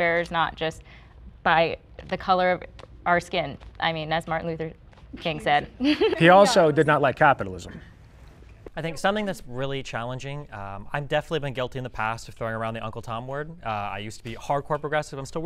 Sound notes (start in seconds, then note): 5.6 laughing